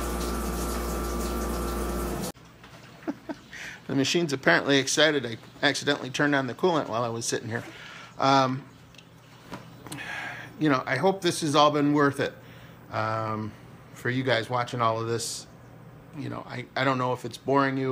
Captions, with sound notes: (Laughs) The machines apparently excited, I accidentally turned on the coolant while I was sitting here. You know. I hope this has all been worth it for you guys watching all of this. You know, I don't know if it's boring you